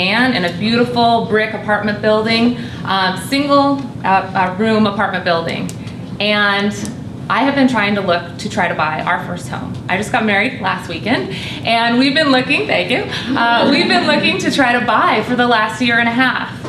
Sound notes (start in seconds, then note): 13.3 laughter